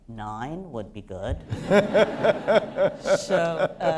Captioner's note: laughter